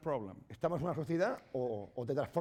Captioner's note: speaking spanish